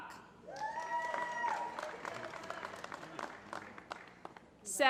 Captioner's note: applause